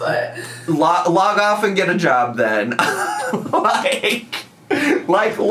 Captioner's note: laughs